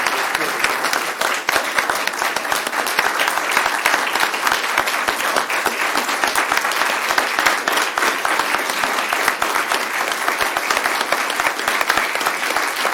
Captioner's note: applause